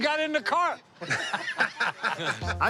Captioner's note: laughter